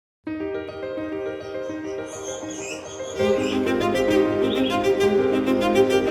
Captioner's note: uplifting music; birds chirping